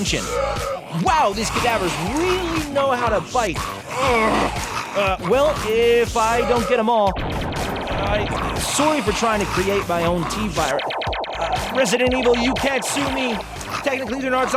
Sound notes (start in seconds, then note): 1.2 ray gun sounds; 7.2 ray gun sounds